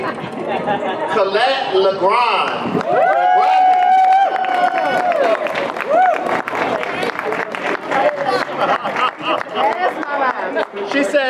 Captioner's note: audience applause